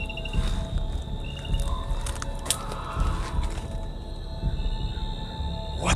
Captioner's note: screams